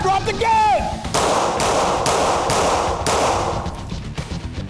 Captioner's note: gunshots